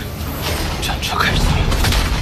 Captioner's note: the war chariot starts